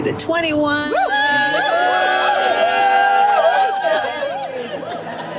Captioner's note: runners cheering